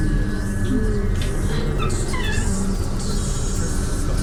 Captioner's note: doors open